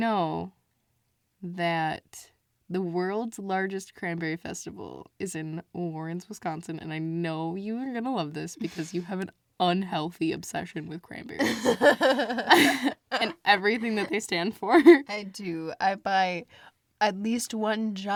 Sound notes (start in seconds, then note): 11.4 both laugh